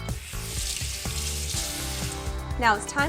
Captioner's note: water rushing